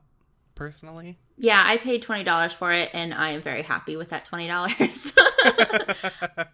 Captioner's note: laughs